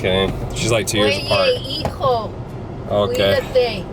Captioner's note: speaks foreign language